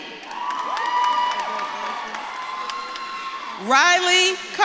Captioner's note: audience claps and cheers